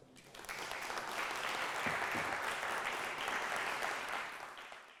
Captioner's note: audience clapping